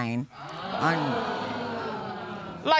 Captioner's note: audience exclaiming